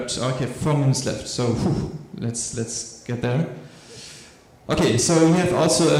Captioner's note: shudders